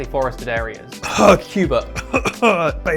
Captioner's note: cough